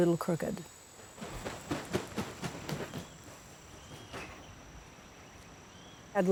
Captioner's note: wings flapping